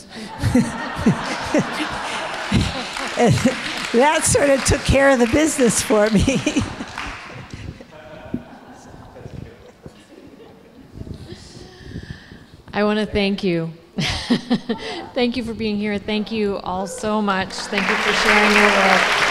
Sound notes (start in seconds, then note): 0.1 audience laughs; 2.5 audience applauding